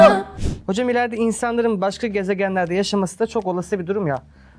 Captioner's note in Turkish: homurdanır